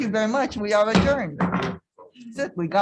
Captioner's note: gavel bangs